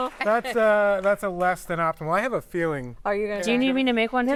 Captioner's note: applause